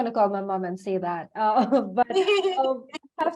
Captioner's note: laughs